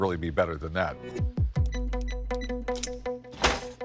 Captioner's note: buttons beeping